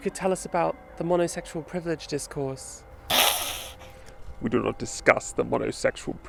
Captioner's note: hisses